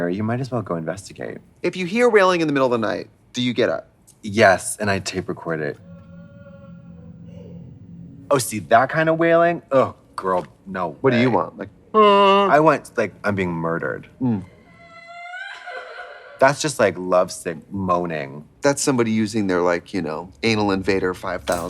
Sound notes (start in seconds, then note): 6.0 man wailing; 11.9 groans; 14.4 girl wailing